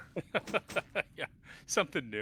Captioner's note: laughter